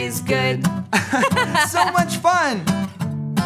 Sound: laughing

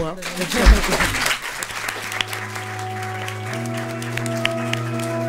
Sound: laughs and applause

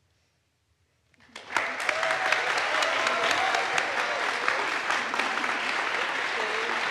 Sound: audience applauds; audience cheers

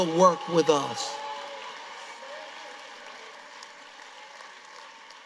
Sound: congregation cheering

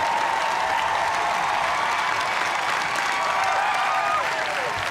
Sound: cheers and applause

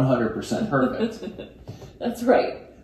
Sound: laughs

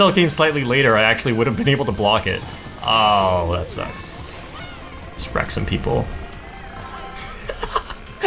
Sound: laughs

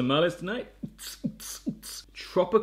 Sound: imitates dance beat

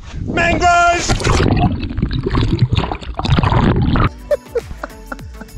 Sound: water gurgles; laughs

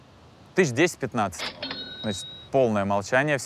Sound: ka-ching sound

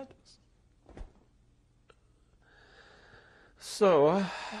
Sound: pauses for 3 seconds

